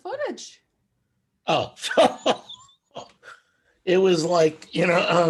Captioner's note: laughs